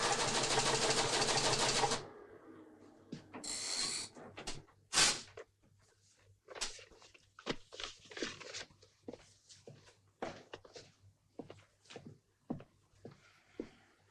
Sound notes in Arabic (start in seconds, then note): 0.0 صوت الآلة; 5.0 تمزقات الورق